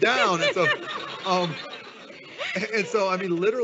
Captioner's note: audience laughing